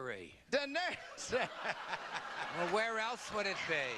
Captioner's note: laughs; audience laughter